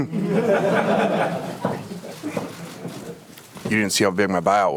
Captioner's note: audience laughs